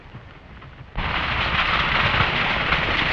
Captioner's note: hooves clattering